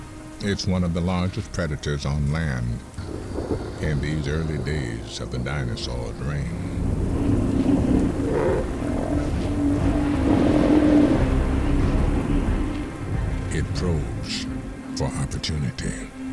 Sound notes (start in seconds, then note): 7.9 grunting